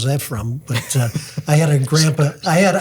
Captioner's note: group laughs